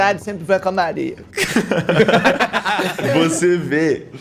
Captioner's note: laughs